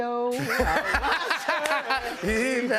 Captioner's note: laughter